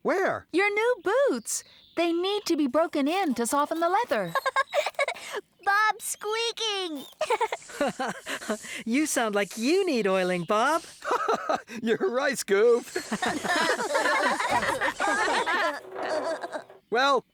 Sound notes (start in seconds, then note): 7.0 laughing; 7.0 giggling; 12.8 all Laughing